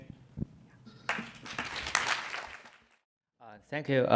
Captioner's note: applause